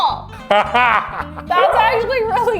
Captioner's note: laughs